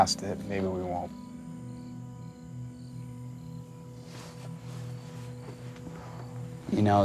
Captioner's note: crickets chirping; gentle music